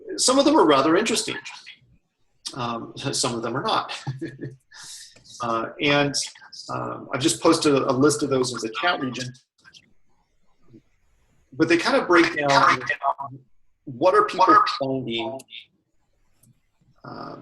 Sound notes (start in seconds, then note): 3.9 laughter